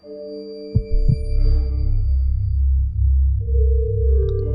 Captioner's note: heart pounding